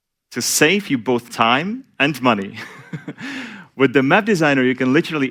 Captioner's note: laughs